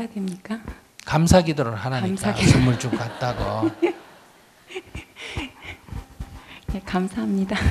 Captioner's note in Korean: 질문자 웃음; 청중 웃음